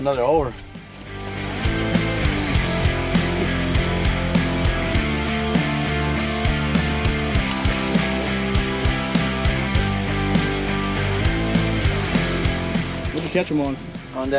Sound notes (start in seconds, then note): 2.2 rock music resumes; 7.2 water splashing